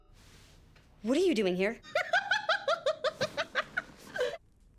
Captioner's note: laughing